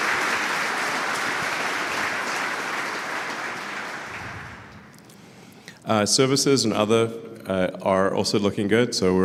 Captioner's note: Applause; 鼓掌